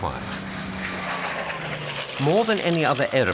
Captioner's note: plane roaring